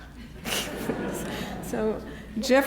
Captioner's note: audience laughs